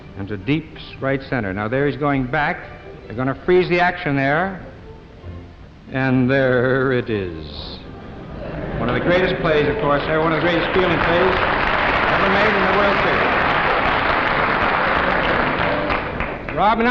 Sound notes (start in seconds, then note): 11.2 audience applauding; 13.8 drowned out by applauding